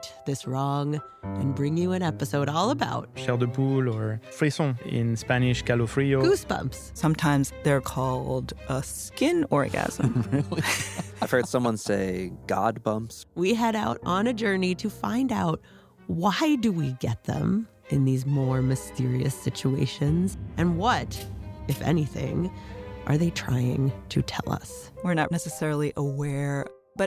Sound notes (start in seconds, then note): 9.8 laughs